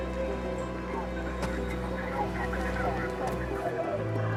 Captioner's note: police radio